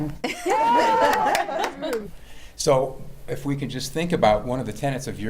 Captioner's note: laughter